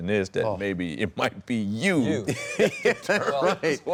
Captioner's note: laughs